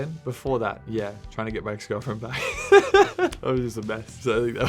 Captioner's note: laughing